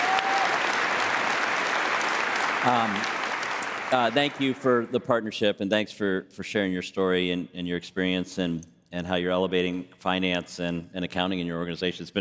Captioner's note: applause